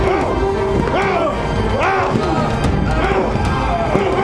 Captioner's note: grunting